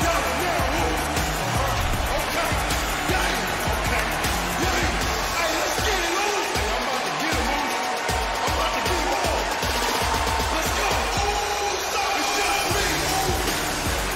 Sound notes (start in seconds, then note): 2.0 cheers and applause